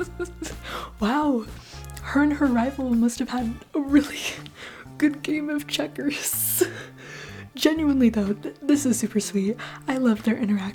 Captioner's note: cracking up